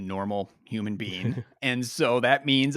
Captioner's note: chuckles